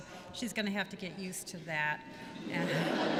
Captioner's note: laughter